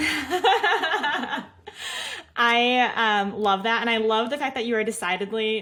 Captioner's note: laughs